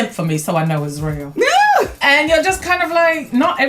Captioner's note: laughs